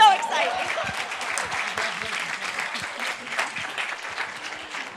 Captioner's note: group applauding